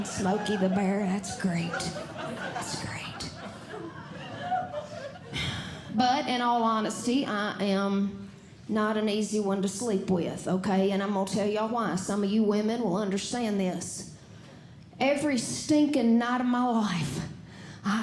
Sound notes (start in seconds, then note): 1.7 audience Laughing